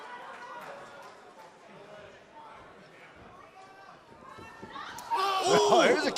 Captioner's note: crowd chatter